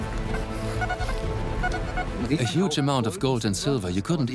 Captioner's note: metal detector beeps